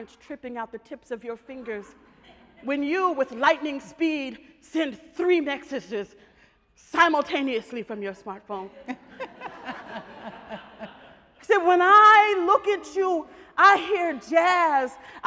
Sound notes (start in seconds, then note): 8.7 audience laughs